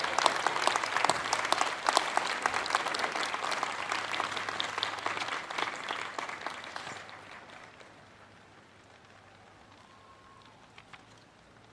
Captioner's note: applause